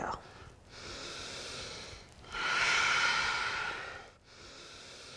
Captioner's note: deep breathing